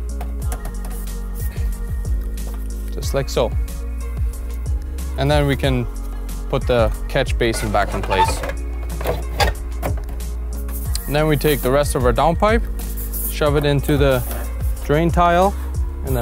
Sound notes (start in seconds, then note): 7.4 metal rubs